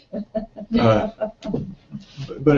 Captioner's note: laugh